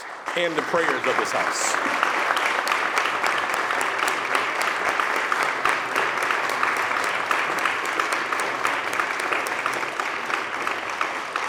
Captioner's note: applause